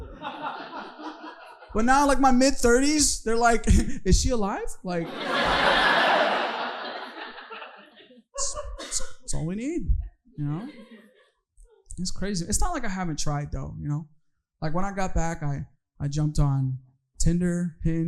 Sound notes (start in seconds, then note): 5.0 audience laughing